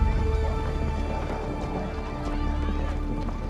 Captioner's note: indistinct chatter